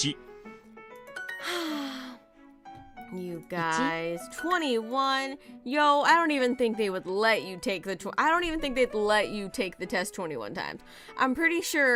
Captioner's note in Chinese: 嘆氣